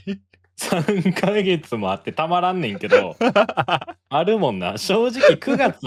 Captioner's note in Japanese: 笑い